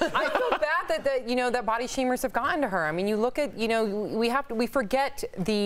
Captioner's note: laughter